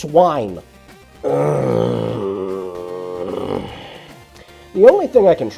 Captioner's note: groans